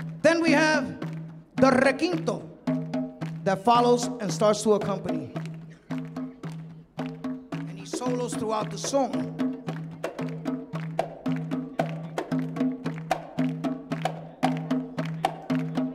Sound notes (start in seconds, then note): 1.7 speaking in Spanish; 9.0 audience clapping; 10.2 upbeat drumming continues